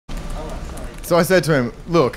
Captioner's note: office sounds